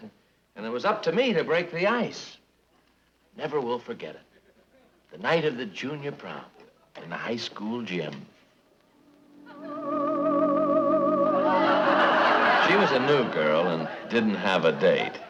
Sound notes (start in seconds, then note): 11.0 audience laughing